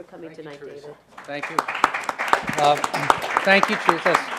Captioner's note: audience applauds